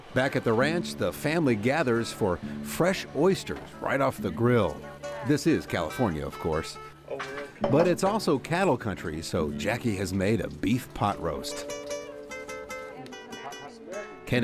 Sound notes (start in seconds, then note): none